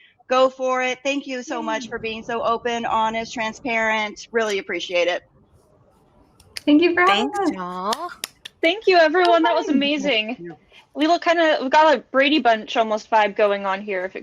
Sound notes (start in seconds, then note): 7.8 clapping